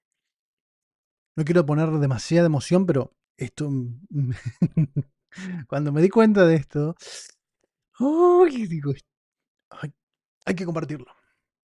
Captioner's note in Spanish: risas